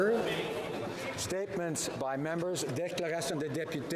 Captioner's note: speaking French